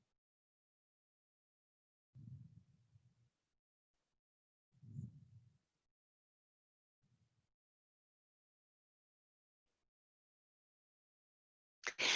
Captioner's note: silence